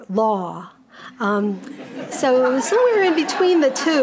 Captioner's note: audience laughing